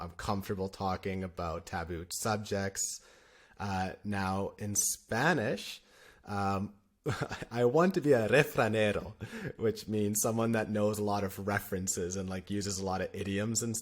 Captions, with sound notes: I'm comfortable talking about taboo subjects, uh, now in Spanish. Um, [laughter] I want to be a refranero which means someone that knows a lot of references and like uses a lot of idioms